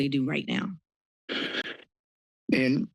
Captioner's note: sigh